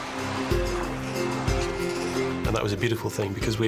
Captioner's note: chirping